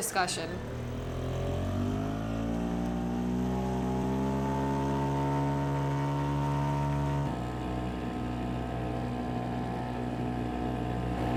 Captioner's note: sound of outboard motor